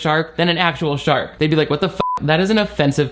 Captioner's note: beep